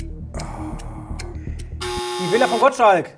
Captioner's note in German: Seufzen